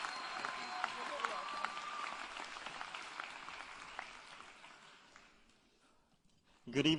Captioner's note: applause